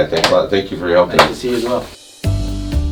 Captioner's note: exchanging goodbyes